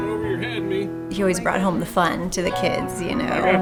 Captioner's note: voiceover